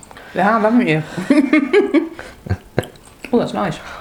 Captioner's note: laughs